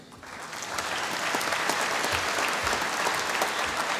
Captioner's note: applause